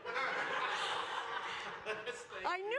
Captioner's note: laughter